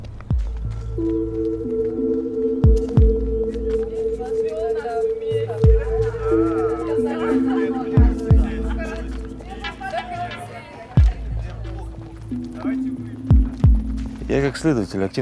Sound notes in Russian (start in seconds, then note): 4.1 отдалённые голоса